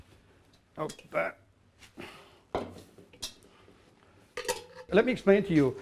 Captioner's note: grunts softly